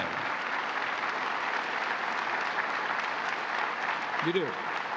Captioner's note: applause